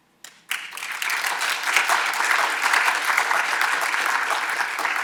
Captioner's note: audience applauding